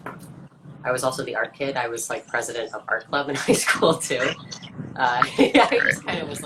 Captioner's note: laughs